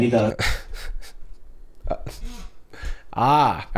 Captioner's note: scoffs